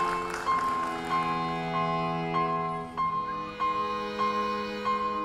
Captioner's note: audience applauding